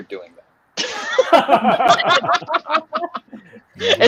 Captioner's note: laughing